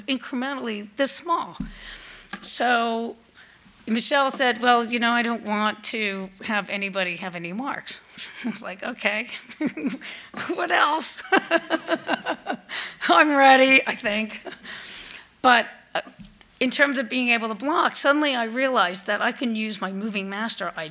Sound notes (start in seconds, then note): 11.3 laughs